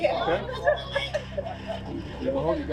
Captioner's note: laughter in background